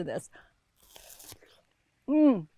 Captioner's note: pear crunches